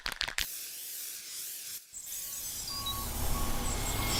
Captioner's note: spray paint can rattling; paint spraying; truck rumbling